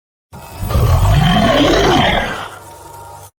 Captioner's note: monster Roar